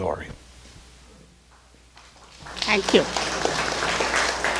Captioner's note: crowd clapping